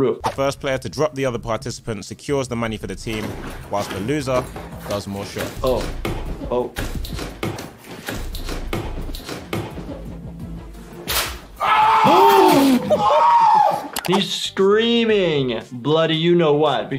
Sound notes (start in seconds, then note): 6.8 feet stomping on the mat; 11.1 cord snaps; 11.6 screaming; 12.0 gasping